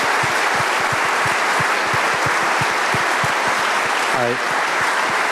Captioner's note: applause